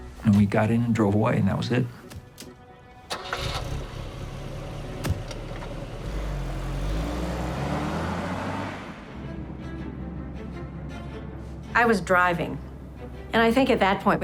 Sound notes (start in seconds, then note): 3.1 car starts; 5.1 car pulls away; 9.5 fast music